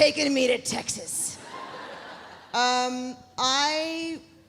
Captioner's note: audience laughs